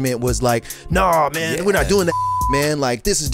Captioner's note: beep